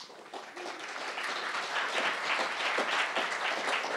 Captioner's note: crowd applauding